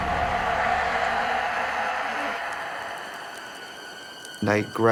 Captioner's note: spooky music climaxes; monster yelling